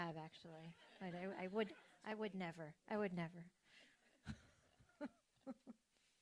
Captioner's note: laughs